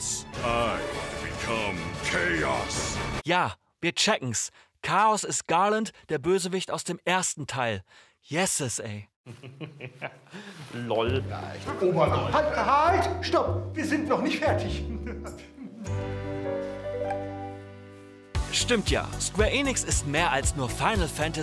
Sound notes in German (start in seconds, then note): 9.3 Kichern; 15.7 Verwunderte Musik